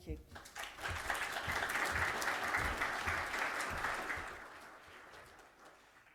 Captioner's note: applause